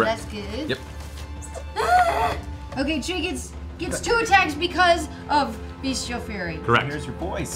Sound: screams

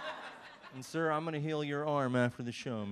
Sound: audience laughs

